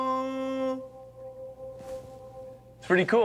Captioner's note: sound reverberates